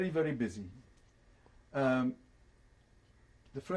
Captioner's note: pauses for 3 seconds